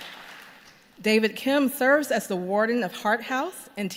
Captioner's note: applause